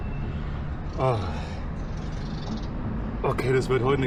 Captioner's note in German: stöhnt